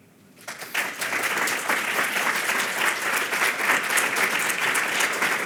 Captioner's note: audience applauding